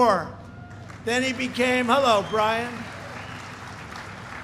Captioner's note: applause